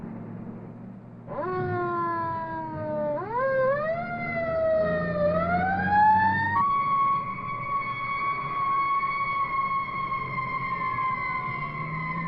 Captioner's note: siren wailing